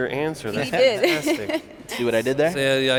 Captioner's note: laughs